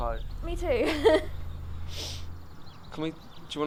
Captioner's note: laughs